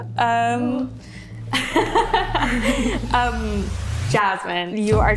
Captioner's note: woman laughing